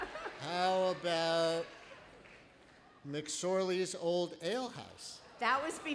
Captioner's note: laughter